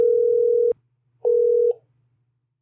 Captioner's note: phone rings